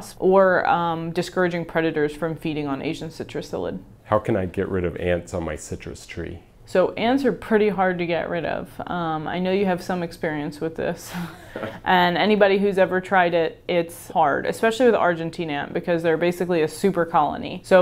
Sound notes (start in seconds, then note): 11.4 laughs